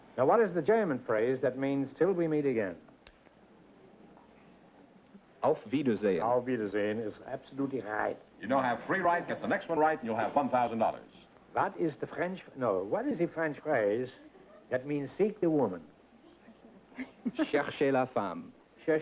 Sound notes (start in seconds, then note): 7.4 german accent; 11.3 french accent; 16.5 whispered conversation